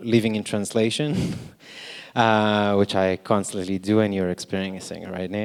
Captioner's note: laughs